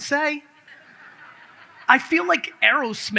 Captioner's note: audience laughs